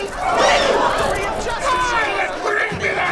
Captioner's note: bird squawking; gasps